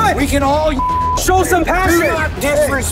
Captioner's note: beeps